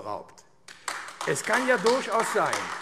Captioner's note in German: Beifall AfD